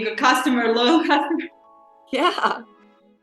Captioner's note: laughs